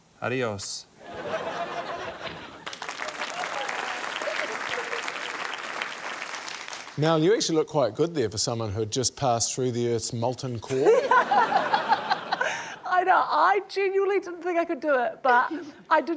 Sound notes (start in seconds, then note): 2.6 applause; 10.7 laughter